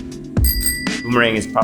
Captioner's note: bicycle bell dinging